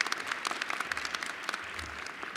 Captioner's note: applause